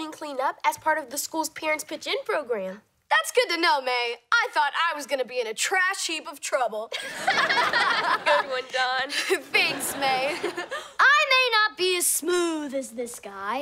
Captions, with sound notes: as part of the school's Parents Pitch In Program. That's good to know, Mae. I thought I was gonna be in a trash heap of trouble. [laughing] Good one, Dawn. Thanks Mae. [chuckles] I may not be as smooth as this guy.